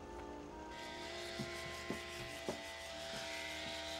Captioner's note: electric shaver humming